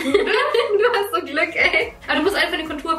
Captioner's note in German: lacht